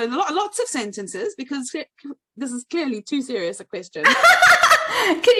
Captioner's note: laughs